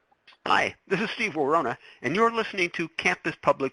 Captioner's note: voiceover